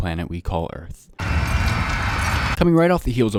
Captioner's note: fire and screaming